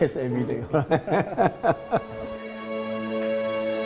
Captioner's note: laughs